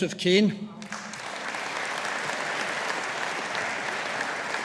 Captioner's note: audience applauding